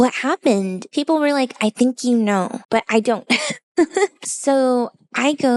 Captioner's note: laughs